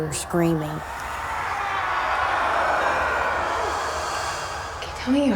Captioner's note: men screaming